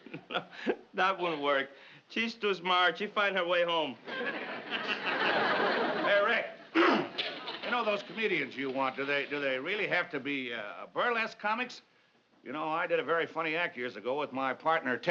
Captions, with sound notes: [chuckling] No, that wouldn't work. She's too smart; she'd find her way home. Hey, Rick... [clears throat] You know those comedians you want-- do they... do they really have to be, uh, burlesque comics? You know, I did a very funny act years ago